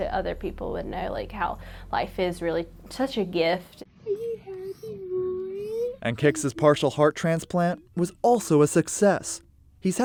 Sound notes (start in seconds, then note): 4.0 babbling